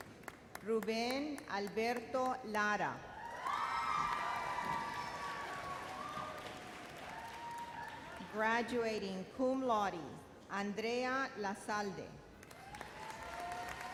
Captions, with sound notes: Ruben Alberto Lara. (thunderous cheers) Graduating Cum Laude, Andrea Lazalde. (audience applause)